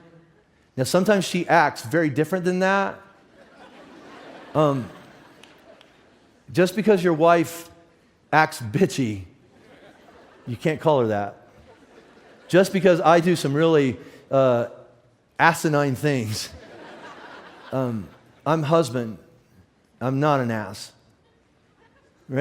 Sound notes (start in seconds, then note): 3.2 audience laughs; 16.5 audience laughs